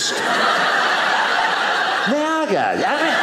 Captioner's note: audience laughing